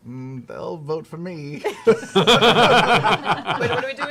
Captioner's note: laughter